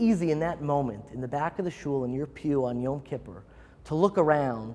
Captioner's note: Hebrew